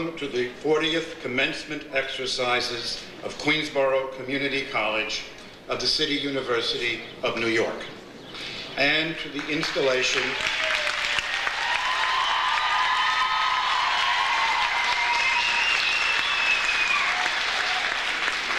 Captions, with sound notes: to the 40th commencement exercises of Queensborough Community College of the City University of New York, and to the installation-- (audience applauds) (audience cheers)